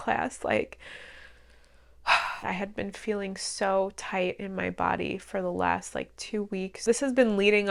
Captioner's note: big exhale